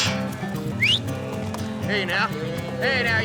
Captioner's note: whistles